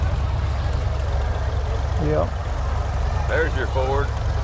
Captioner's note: revving continues